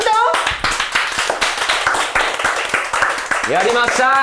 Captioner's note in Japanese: 拍手